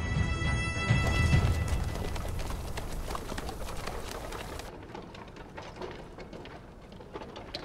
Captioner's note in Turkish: At ayak sesleri